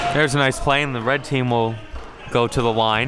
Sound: whistle blows; yelling; cheering and applauding

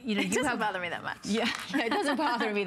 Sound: laughter

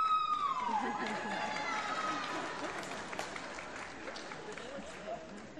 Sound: applause

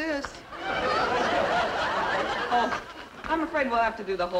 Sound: audience laughing

